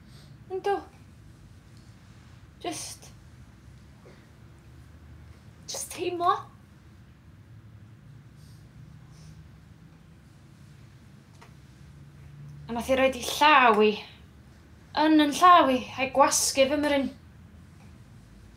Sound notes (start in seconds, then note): none